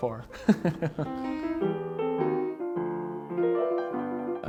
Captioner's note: laughing